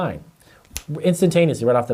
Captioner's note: fingers snap